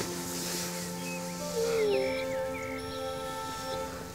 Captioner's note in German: Winseln